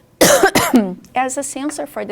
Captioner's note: coughs